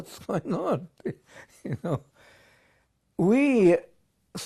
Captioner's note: laughs